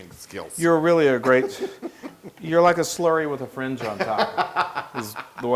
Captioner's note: laugh